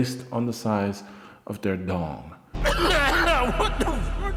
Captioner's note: coughing